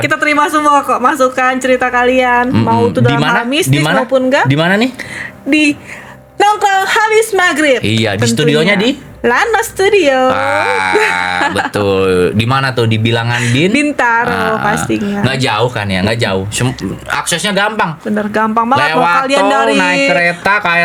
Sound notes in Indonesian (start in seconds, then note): 10.3 tertawa